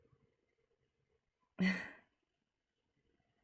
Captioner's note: chuckle